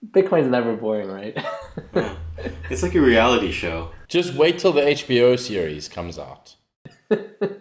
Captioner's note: laughs